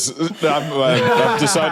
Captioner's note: laughs flatly